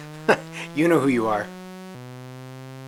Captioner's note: chuckles